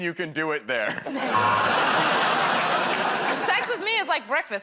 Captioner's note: buzzer